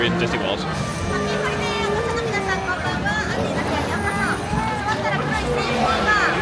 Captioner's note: cast Member speaking in Japanese